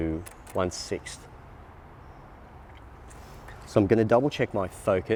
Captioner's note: clicking